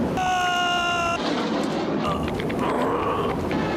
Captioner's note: baby cries; screams